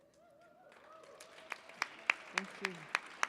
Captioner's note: audience cheers